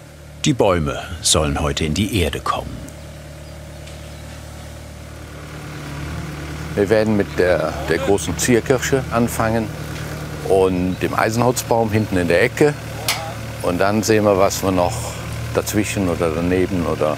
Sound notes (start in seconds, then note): 2.9 engine noise